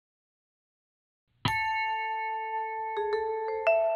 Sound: single note rings

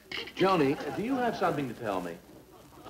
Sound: audience Laughing

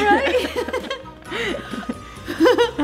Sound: laughing

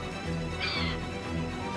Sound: screeches

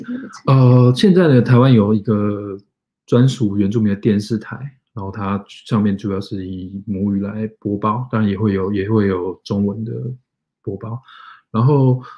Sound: speaks mandarin

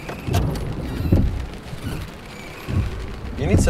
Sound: squeaking windshield wipers

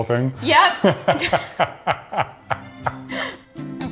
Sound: laughs

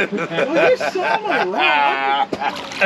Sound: laughing

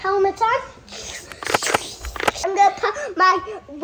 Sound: imitates whoosh sound effect

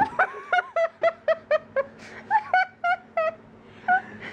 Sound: laughter

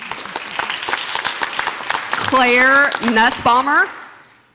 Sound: audience applauds

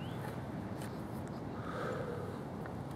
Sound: birds chirping; labored breathing

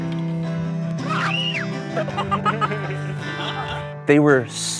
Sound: camper screaming

